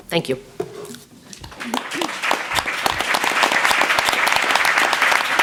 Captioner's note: applause